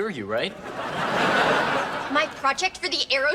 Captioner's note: audience laughs